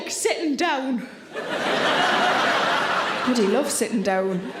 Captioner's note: audience laughs